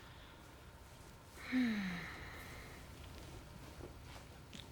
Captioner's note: sighs